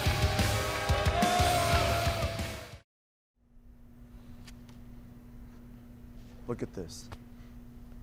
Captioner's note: cheers and applause